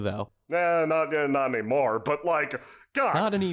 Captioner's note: stammers